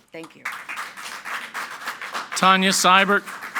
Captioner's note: group clapping